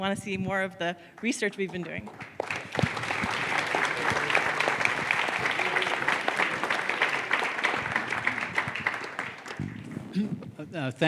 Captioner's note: applause